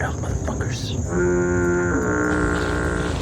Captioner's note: stinky horn signal